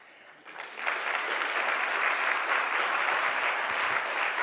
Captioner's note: audience clapping